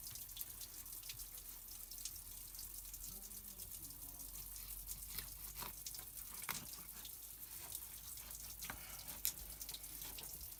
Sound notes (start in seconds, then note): 5.0 sawing